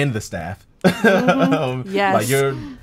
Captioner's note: laughing